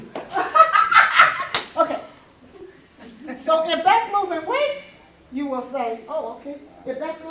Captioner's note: laughing